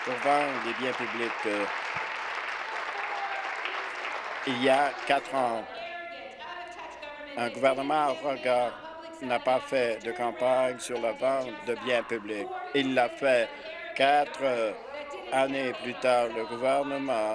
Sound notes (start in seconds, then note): 3.5 applause